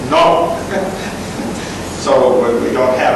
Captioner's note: laughs